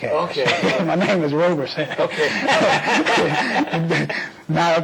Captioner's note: laughter